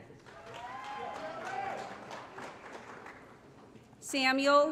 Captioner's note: applause & Cheering